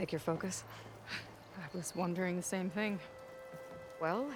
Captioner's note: laugh